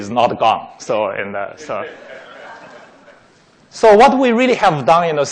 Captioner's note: laughing